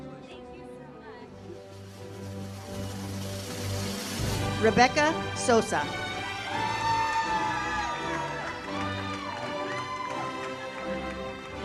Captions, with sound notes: - Rebecca Sosa. (audience cheers) (uplifting music)